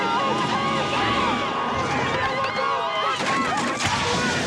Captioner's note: honking horns; crashing noises